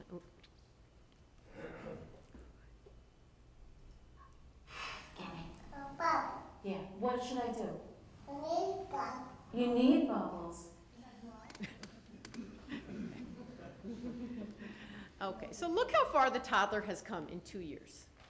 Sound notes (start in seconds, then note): 3.5 baby chatter